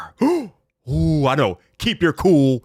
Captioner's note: gasping